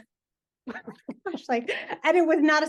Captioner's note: laughing